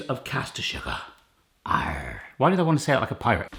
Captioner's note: growling